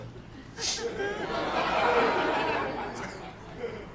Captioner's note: sniffs; laughter